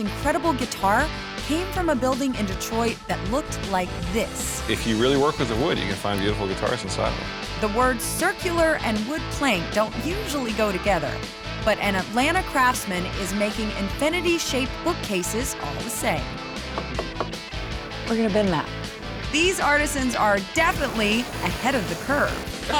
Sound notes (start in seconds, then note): 16.7 knocking on wood